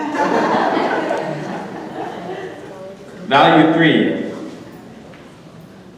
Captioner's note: audience laughter